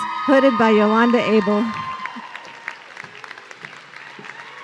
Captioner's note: audience cheering